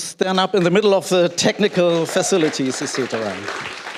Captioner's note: applause